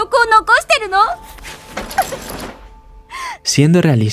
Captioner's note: crying